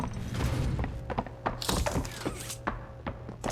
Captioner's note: door creaks; footsteps